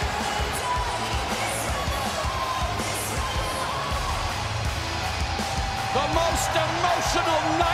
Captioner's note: crowd cheering